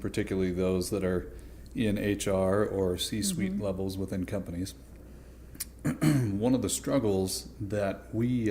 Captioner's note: clears throat